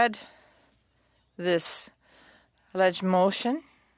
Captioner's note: speaking French